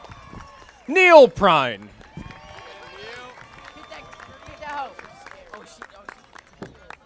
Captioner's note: audience applauding